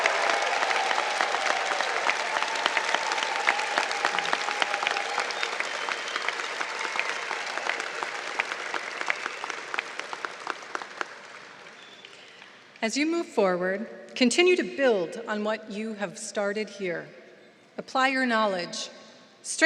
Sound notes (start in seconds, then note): 6.5 applause